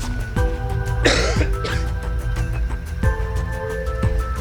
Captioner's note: coughing